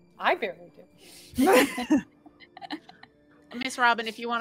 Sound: all laughing

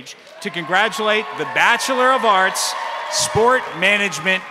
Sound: crowd cheering

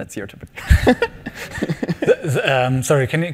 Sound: laughing

